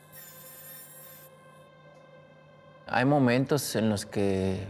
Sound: zumbido

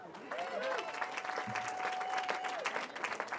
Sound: cheering

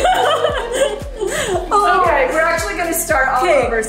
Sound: laughs

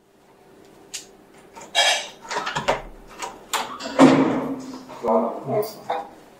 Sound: dishes clattering in the dining room; front door being opened

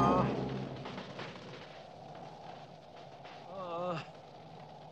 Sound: groaning

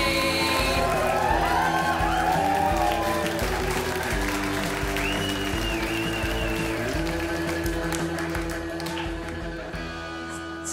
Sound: crowd cheers

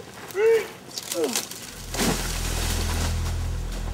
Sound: body thuds

